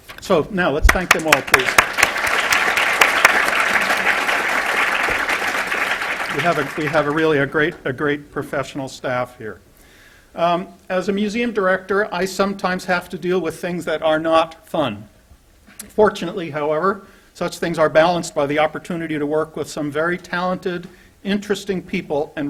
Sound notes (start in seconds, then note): 2.9 applause